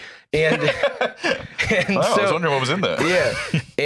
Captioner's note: laughs